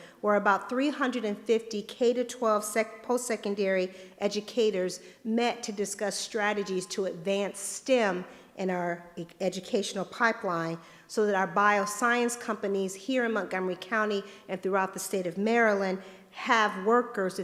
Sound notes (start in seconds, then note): none